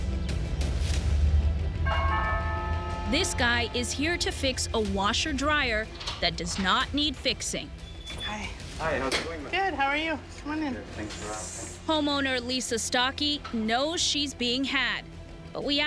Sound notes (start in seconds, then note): 1.8 ringing doorbell